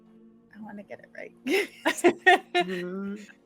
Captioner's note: laughing